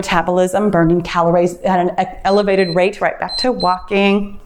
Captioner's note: timer beeps